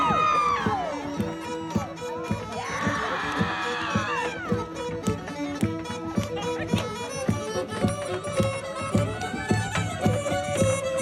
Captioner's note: yes that's me screaming